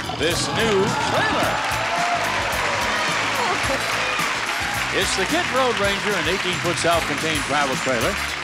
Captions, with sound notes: This new trailer! (audience applauding) It's the Kidd Road Ranger, an 18 foot self-contained travel trailer.